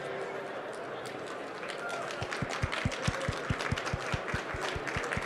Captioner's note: applause